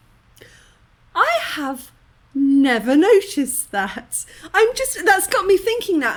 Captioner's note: deep inhale